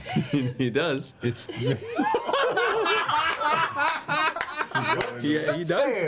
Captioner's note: all laugh